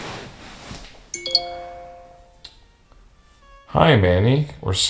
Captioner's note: phone jingle